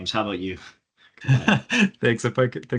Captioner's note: laughing